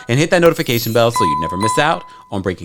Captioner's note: bell dings